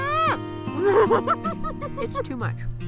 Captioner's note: laughs